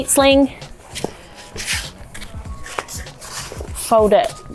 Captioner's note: seat sling sweeps on the floor